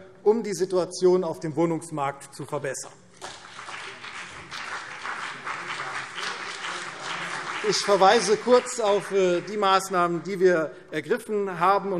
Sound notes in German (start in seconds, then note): 3.2 Beifall CDU und BÜNDNIS 90/DIE GRÜNEN